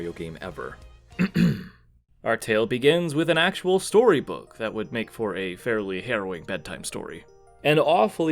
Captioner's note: ahem